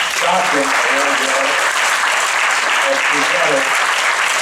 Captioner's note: applause